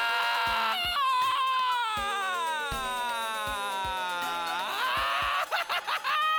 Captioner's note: screams loudly; screaming diminishes; laughs